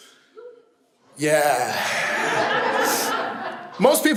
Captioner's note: audience laughs